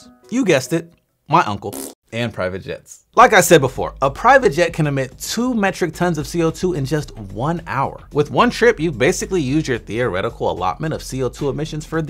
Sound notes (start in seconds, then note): 1.7 man farting